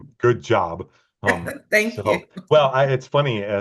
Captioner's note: chuckling